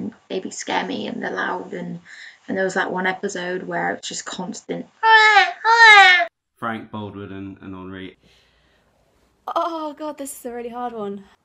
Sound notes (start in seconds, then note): 5.0 unerringly good baby cry impression